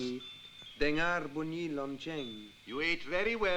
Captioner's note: Malay spoken audio